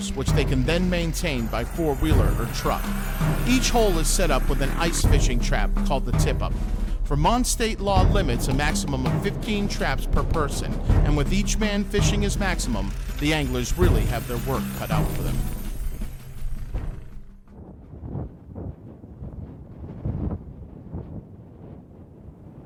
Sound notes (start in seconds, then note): 18.2 wind blowing